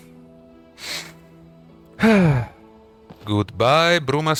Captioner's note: deep breath